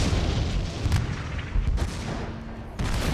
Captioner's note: explosion; gunfire